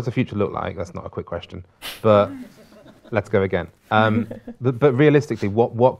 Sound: laughter

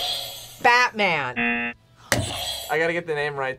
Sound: buzzer rings

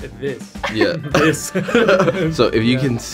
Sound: both laughing

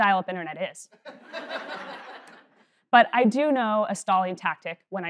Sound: laugh

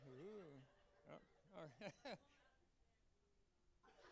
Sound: laughter

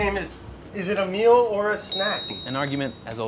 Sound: buzzer pinging

